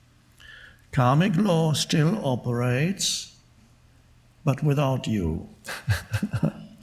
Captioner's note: laughing